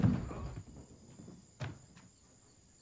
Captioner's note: yells